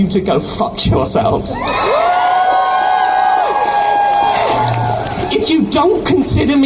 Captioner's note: crowd cheers